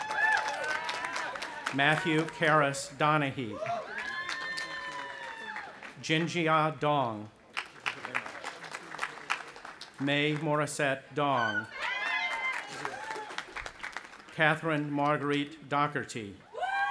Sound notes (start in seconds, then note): 0.0 audience applauding; 3.4 cheering; 7.4 audience applauding; 11.4 audience applauding and cheering